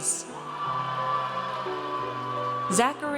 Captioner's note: audience cheers